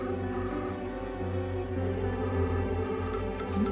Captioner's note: dialing; mobile ringing